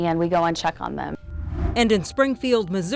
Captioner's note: air whooshing